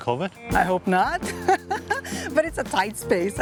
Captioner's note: laughs